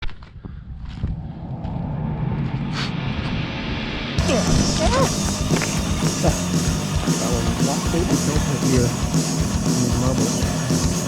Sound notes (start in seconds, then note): 0.7 footsteps thumping; 1.8 wind whistling; 2.9 air whooshing; 4.2 exclaiming; 4.2 footsteps thumping; 6.6 lively music